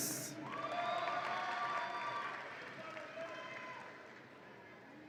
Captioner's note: audience applauds and cheers